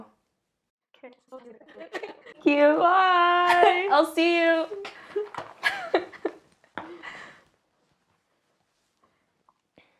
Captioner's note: speedy chipmunk voices